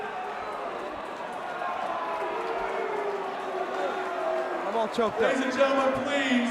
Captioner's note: crowd cheering